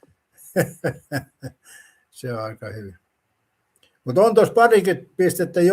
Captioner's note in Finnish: naurua